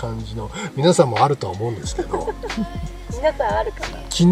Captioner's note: laughs